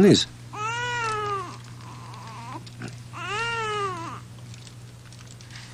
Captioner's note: baby crying